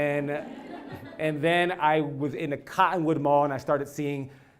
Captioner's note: laugh